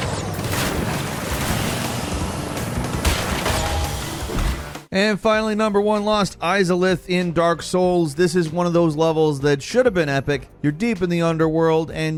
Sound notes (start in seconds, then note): 0.3 water splashing; 2.8 crate exploding